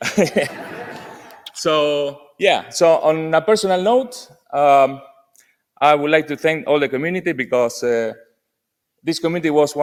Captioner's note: laughter